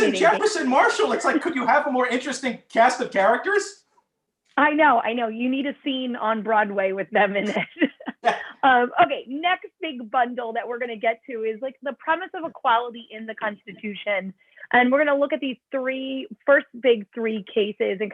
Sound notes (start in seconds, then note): 7.4 laughter